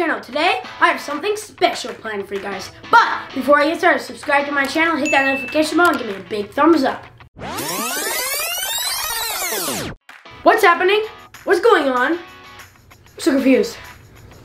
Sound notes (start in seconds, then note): 5.0 bell ringing; 7.4 electronic rewinding